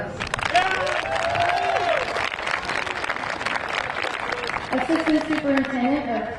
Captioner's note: crowd applauding; crowd cheering